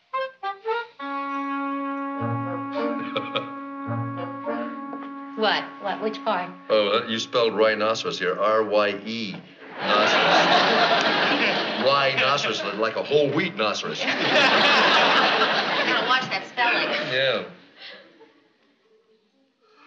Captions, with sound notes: [LAUGHTER] What? What? Which part? Oh, you spelled rhinoceros here R-Y-E-noceros. Ryenoceros like a whole wheat noceros. Better watch that spelling. Yeah.